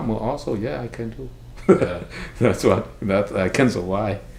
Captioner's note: laughs